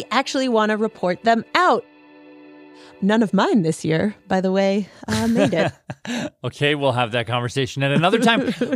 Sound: laughs

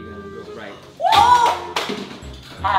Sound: shouts; crash

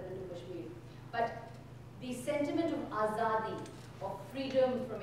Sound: speaking in foreign language

